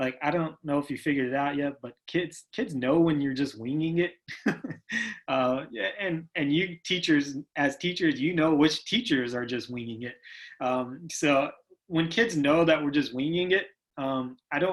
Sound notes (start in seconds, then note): 4.3 laughs